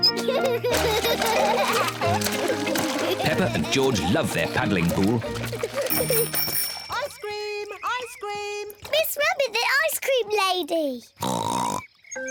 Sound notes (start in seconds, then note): 0.0 both giggle; 5.7 bell tinkles; 11.2 oinks excitedly